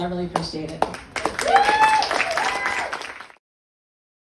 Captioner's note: applause